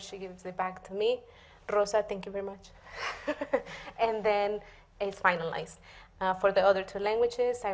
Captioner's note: laughs